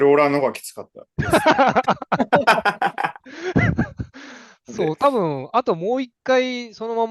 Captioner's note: laughs